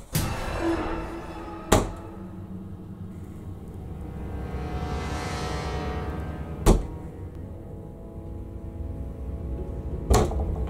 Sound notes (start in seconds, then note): 1.2 thud; 1.4 dramatic music; 3.9 foreboding music; 7.0 thud; 9.1 foreboding music; 10.5 thud